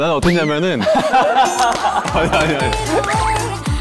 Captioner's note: Everyone laughing except Min Young